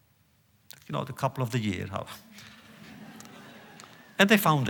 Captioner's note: laughter